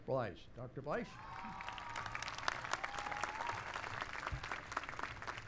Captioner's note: applause